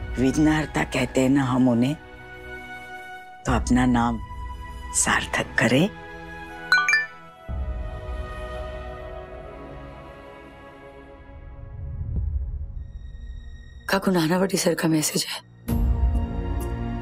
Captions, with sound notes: We call him the 'the one who takes away our obstacles'. Then he should do well by his name. [chiming] [sombre music] Aunt, it's Nanavati sir's message.